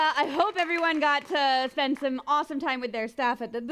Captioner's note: applause